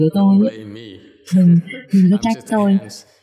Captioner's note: laughter